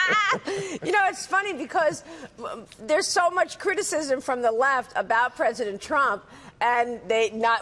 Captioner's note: laughter